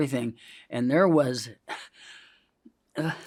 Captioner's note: coughs